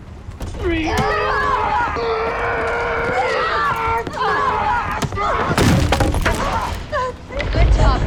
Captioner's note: all grunting